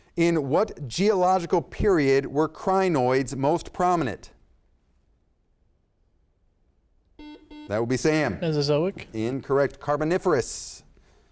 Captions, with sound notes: In what geological period were Crinoids most prominent? (buzzer sounds) That would be Sam. - Mesozoic. - Incorrect. Carboniferous.